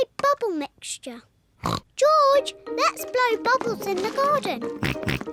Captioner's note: oinks; both oink and laugh